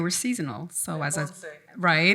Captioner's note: faintly speaking